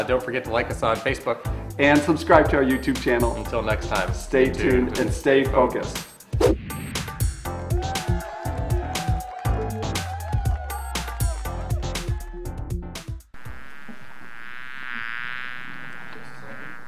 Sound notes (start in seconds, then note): 6.9 pop beat; 13.3 buzzing